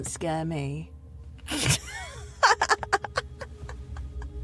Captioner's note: Jane laughs